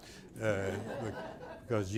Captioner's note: laughter